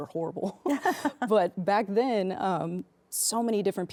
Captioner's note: laughs